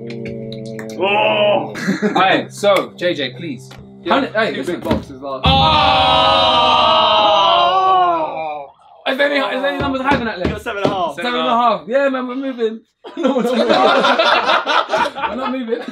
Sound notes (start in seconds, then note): 12.4 all chattering; 13.0 all laughing